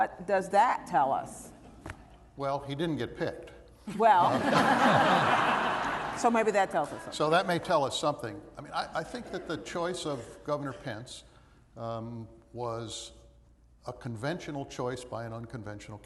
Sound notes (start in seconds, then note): 4.0 laughter